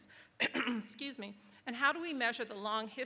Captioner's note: clearing throat